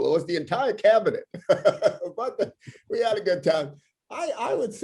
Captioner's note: laughter